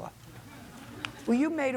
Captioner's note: crowd laughs